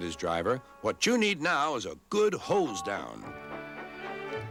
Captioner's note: hoots